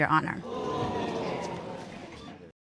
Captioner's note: audience exclaims